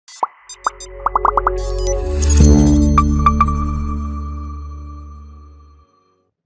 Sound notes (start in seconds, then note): 0.1 graphics popping; 2.2 graphics chiming